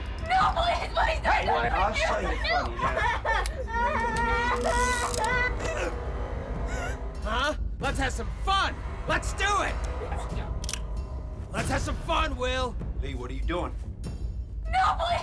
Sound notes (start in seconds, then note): 2.3 boy crying